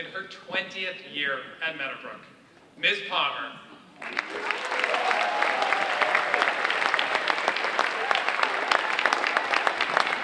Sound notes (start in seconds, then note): 4.0 audience cheering and applauding